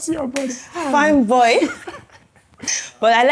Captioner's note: laughs